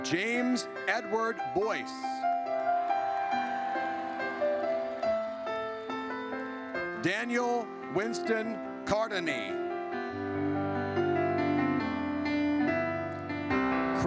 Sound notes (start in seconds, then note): 2.3 audience cheers; 9.8 gentle music